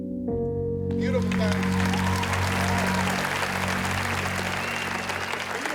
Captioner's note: cheering and applause